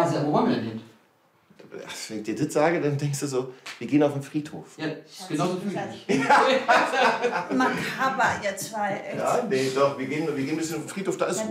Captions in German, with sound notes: Wo wollen wir denn hin? Wenn ich dir das sage, denkst du ... Wir gehen auf den Friedhof. - So fühle ich mich. (Lachen) Makaber, ihr zwei. Nee, wir gehen ein bisschen auf den Friedhof.